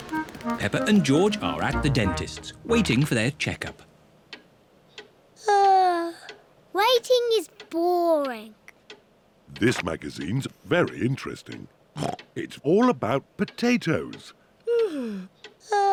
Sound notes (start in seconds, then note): 5.3 yawns; 11.8 snorts; 14.7 yawns